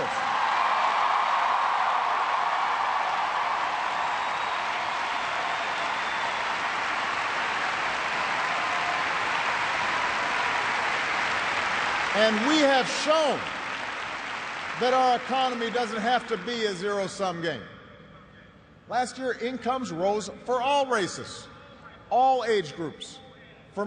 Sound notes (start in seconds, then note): 8.1 cheers and applause